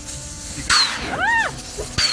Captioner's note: scared scream